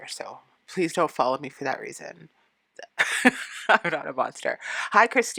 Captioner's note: laughing